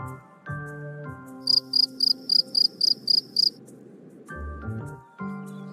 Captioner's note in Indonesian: suara jangkrik